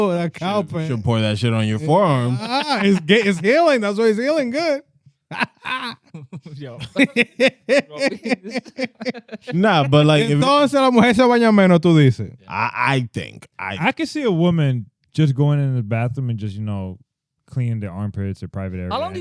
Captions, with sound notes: You should pour that shit on your forearm. It's healing, that's why it's healing, good. (Laughing) Nah, but like-- (Speaking In Foreign Language) I think, I think. I can see a woman just going in the bathroom and just, you know, cleaning their armpits at private area.